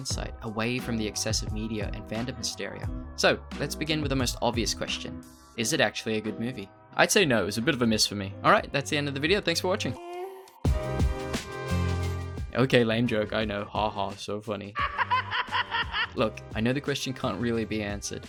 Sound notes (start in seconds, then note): 14.8 laughter